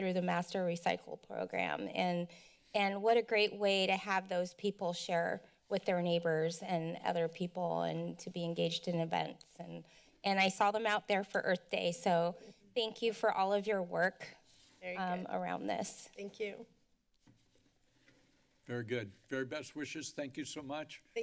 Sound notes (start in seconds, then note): 16.9 silence